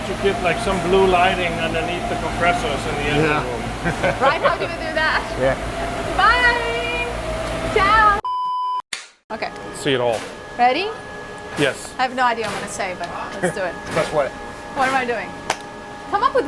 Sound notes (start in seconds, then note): 3.8 laughs; 8.2 machine beep